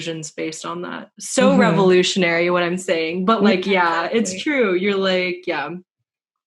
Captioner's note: sarcastically